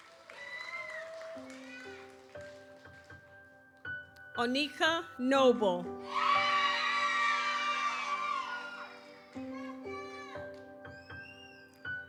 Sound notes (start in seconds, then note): 0.0 audience cheers; 0.2 gentle music continues; 6.0 audience cheers; 6.1 gentle music continues